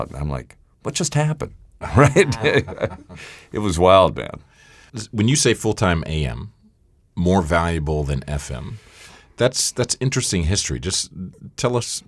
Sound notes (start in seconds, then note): 1.8 laughs